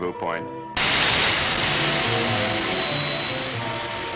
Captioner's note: rocket hissing